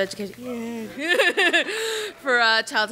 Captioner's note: laughs